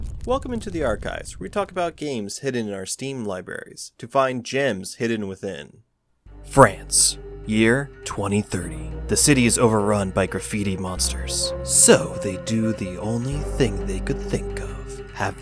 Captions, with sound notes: Welcome into the archives where we talk about games hidden in our steam libraries to find gems hidden within. *Dramatic Voice*France, Year 2030. The City is overrun by Graffiti monsters. SO they do the only thing they could think of.